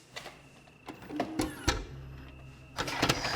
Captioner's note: VCR whirs